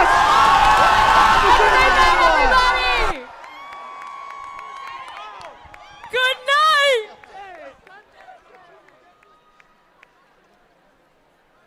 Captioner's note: applause